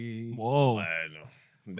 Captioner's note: non-english Speech